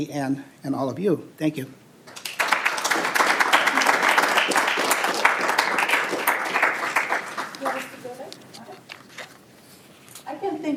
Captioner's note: applause